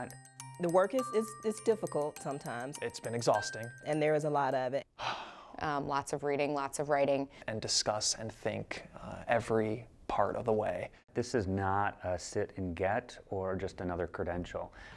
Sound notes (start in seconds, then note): 5.0 sigh